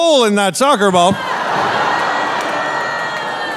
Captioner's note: audience laughing